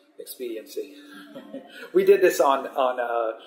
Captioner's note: laughs